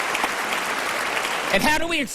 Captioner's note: applause